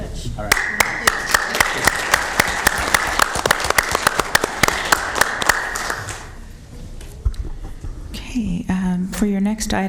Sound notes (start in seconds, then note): 3.3 applause